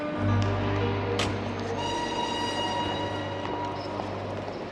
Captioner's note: train whistle blows